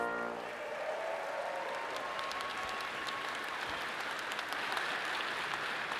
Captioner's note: audience applauds and cheers